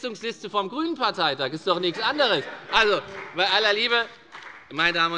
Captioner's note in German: Heiterkeit und Beifall bei der FDP - Zurufe von dem BÜNDNIS 90/DIE GRÜNEN